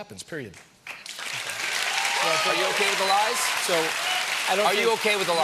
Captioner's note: applause